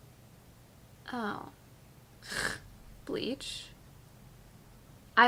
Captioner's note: snorts